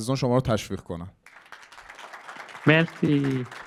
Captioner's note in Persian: تشویق